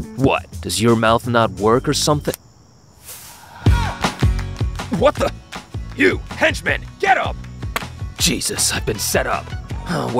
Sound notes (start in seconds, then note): 2.1 hand slapping; 3.7 upbeat soft rock music